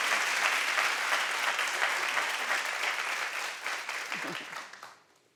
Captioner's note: audience applauding